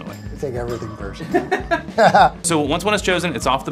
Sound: laughter

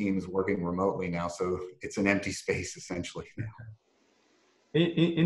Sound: laugh

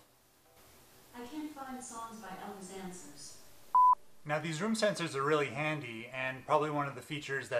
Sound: alexa randomly chimes in

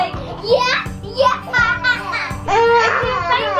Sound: laughs

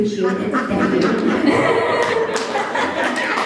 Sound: laughter

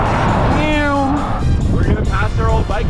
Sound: mimics car sound

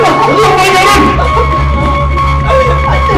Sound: Virginia, Celia crying

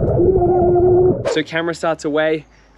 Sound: gurgles "WHIP!"

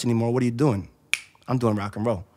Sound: snaps fingers

